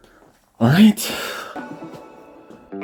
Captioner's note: exhales